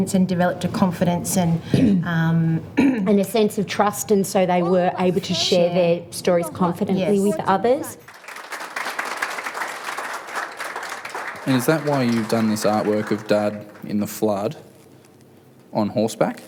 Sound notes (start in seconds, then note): 8.0 applause